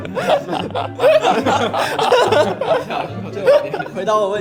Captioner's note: whEEzE